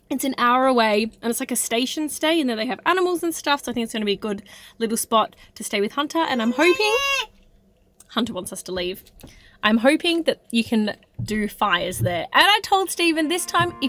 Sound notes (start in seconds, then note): 7.4 shouting